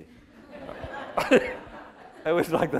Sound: laughter

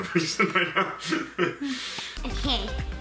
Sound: laughs

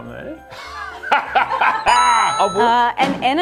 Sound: both laugh

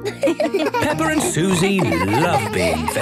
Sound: giggling

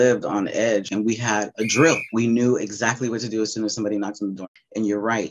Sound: whistle

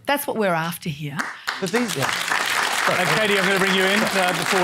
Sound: applause

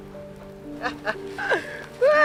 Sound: someone else laughing

